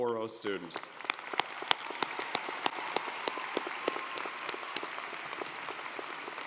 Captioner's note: audience cheering & applauding